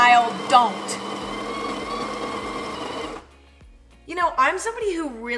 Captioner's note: grinder whirs